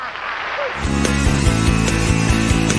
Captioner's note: audience applause; laughs; rock music